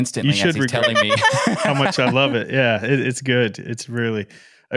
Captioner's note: laughing